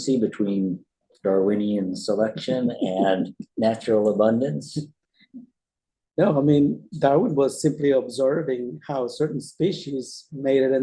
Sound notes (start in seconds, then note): 5.9 laughs